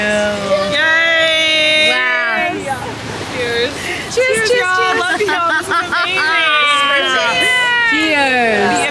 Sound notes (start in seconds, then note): 0.7 all cheer